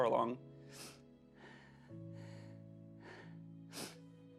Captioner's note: sniffling